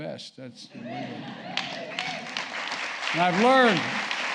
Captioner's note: applause